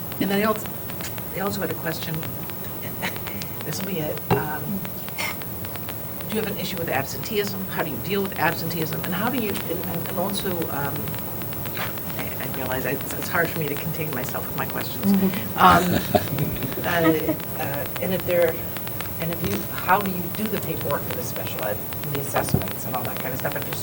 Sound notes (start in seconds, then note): 15.2 laughter